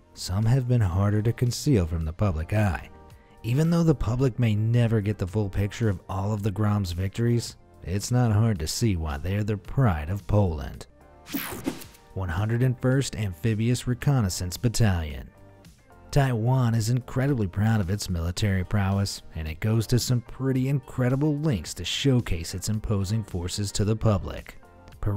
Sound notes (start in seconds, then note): 11.3 light swishing